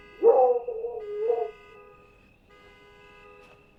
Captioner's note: dog barking; crickets chirping